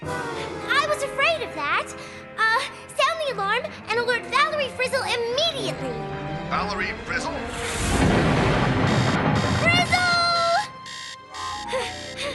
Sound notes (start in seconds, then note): 7.4 explosion; 11.1 alarm blaring; 12.1 gasping